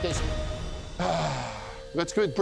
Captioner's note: sighs heavily